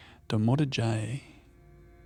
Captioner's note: speaking foreign language